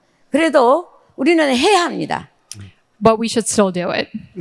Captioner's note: speaking in foreign language